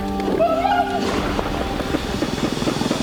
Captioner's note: screaming